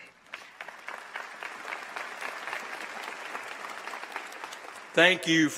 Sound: applause

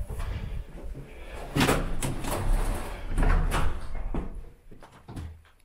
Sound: door closing loudly

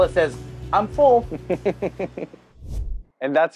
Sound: laughs

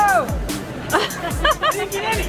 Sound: woman laughing

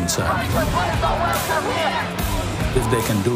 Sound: crowd yelling

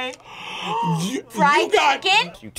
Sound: both gasp

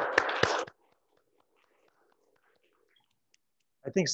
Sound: applauds

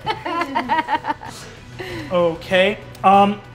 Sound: players laughing

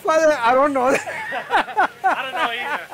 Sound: laughter

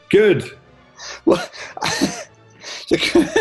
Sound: laughing

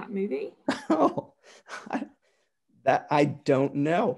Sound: giggles

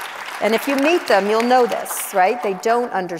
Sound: audience applauds

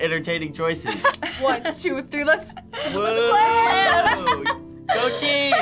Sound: laughter

